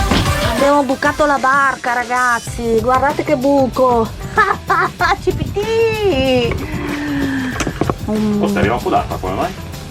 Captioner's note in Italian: risate